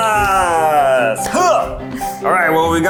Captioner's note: hands slapping